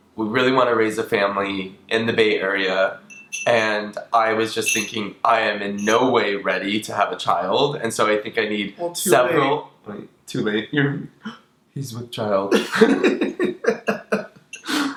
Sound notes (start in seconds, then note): 11.2 gasps; 12.5 both laugh